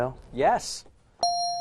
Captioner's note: correct answer chime